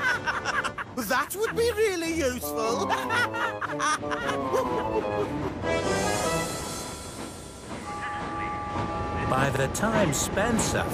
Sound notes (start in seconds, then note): 0.0 bill and ben laugh